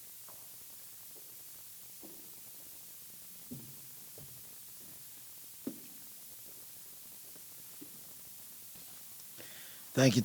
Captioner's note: applause